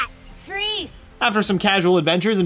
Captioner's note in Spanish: Voz en off